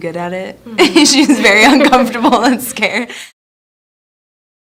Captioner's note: laughing